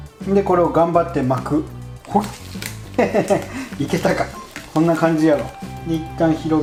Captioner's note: haha